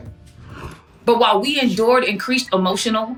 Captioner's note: air whoosing